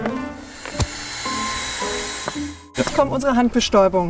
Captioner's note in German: Bohrgeräusch, klimpernde Klaviermusik